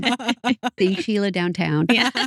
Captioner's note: laughing